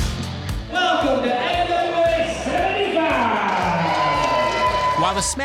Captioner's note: crowd cheering